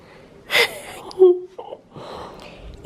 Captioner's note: chuckling